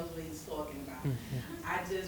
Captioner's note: chuckle